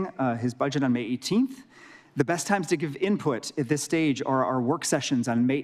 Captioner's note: none